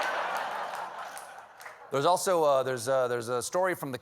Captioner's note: laughter